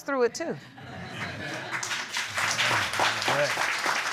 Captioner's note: audience laughing and applauding